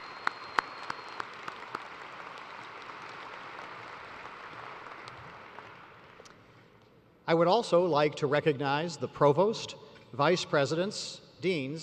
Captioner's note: applause